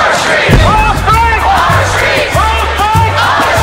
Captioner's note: chanting in Spanish